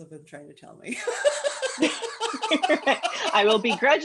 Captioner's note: laughter